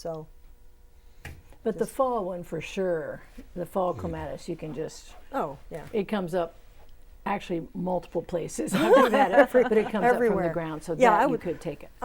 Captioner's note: laughing